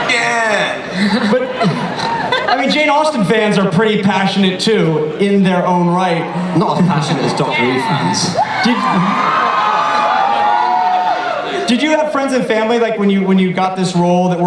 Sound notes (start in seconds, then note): 8.7 audience cheers